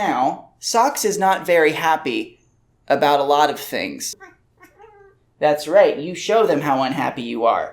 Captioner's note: small cat sound